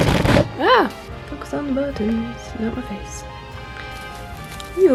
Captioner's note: sudden loud tripod noises; singsong voice